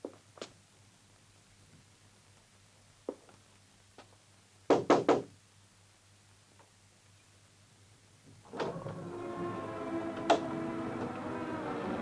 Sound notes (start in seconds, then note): 4.7 knocking on door; 9.0 eerie music